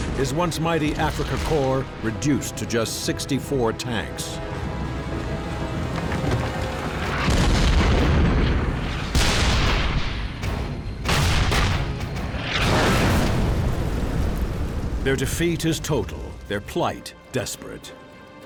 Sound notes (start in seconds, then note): 0.0 cannons firing; 0.0 shell explodes; 7.2 tank turret fires; 9.3 cannon fires; 11.0 tank turrets fire; 12.2 tank explodes